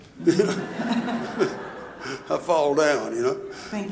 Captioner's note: audience laughing